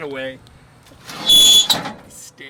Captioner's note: metal scraping